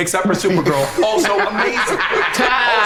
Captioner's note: group laughs